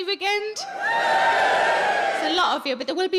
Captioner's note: audience cheers